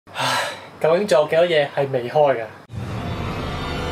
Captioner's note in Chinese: 嘆氣